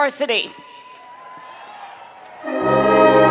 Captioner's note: cheering and Applause